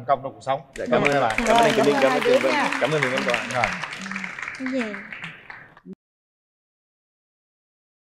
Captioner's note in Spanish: Aplaudir